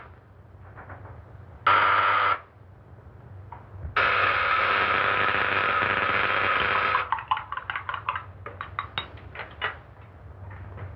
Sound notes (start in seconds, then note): 1.6 buzzing; 4.0 buzzing continues; 7.0 liquid pouring